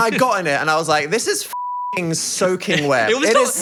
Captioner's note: beep